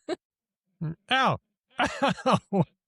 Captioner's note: laughs